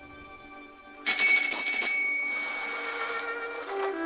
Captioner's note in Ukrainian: велосипедний дзвінок